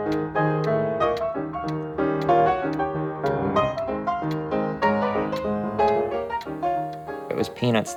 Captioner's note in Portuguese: relógio tique-taque